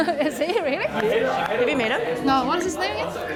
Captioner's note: laughs